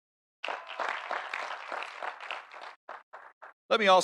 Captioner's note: audience applauding